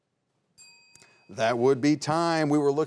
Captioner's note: bell dings